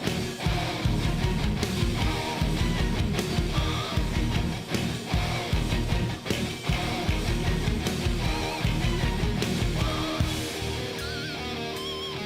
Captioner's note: crowd cheering